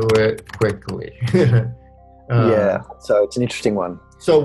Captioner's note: chuckles